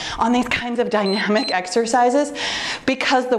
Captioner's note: timer beeps